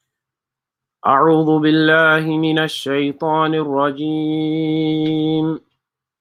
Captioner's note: speaking in foreign language